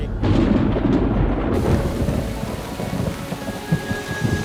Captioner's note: thunder rumbles